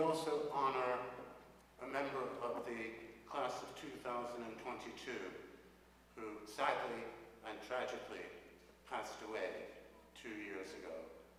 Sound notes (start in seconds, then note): none